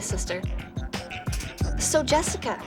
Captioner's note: click